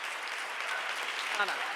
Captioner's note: audience applauds